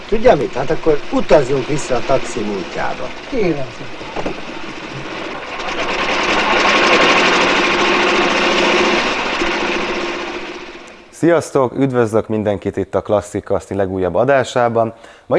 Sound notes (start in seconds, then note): 5.5 engine revving loudly